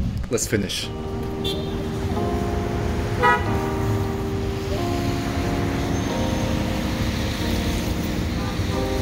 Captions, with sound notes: let's finish. (soft music) (vehicle honking) (wind whooshing)